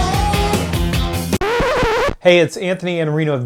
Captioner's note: record scratch